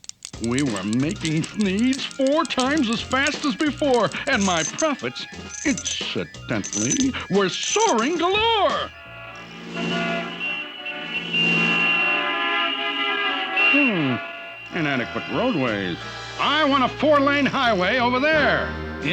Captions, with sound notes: We were making Thneeds four times as fast as before... ...and my profits, incidentally, were soaring galore. [CARS HONKlNG] Hmm, inadequate roadways. I want a four-lane highway over there.